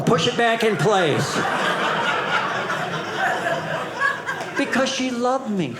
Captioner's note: audience laughing